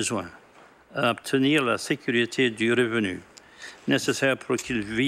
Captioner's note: speaking French